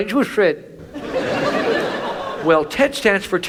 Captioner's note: audience laughs